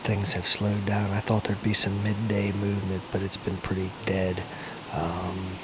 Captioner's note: turkey rustling leaves